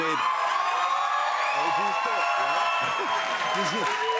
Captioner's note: cheers and applause